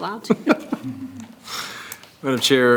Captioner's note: laughs